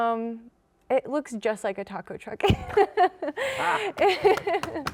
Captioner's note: laughing